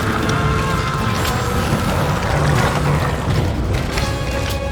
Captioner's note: Darlus screaming